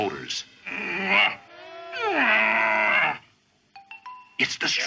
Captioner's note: groans